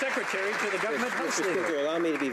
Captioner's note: some Applause